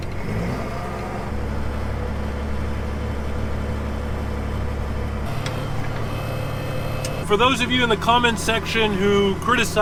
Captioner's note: tractor sound